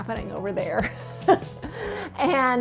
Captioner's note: chuckles